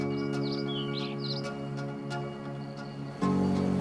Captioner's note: birds chirping